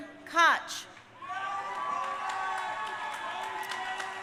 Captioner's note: crowd cheering